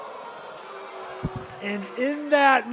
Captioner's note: crowd response